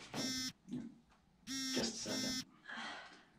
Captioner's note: annoyed sigh